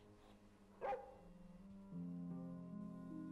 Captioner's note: Atticus barking